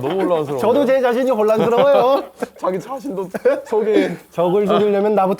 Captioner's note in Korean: 웃음